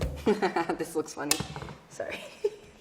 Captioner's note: laughing